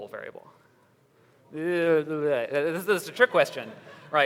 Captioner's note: audience laughter